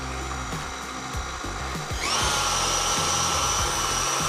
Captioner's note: blender whirring